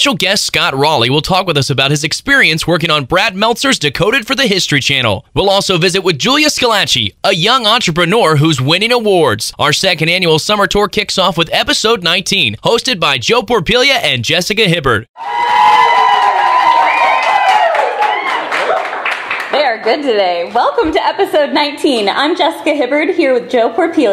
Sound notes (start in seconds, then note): 15.1 cheering and Applause